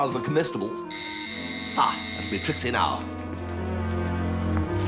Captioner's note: door bell rings